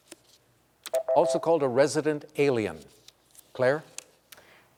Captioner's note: beep